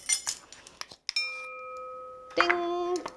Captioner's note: bowl ringing